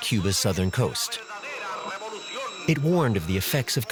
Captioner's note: radio chatter in Spanish